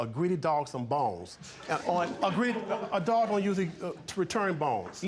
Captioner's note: audience murmuring